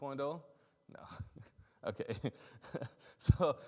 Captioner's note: laughing